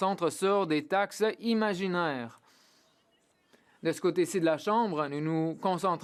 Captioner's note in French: voix de l'interprète